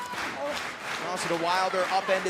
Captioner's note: clapping